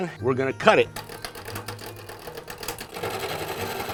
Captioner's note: rotating lathe